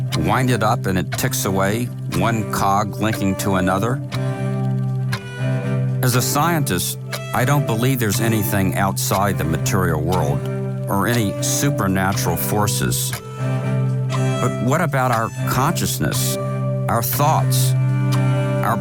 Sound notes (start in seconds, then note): 4.4 clock ticking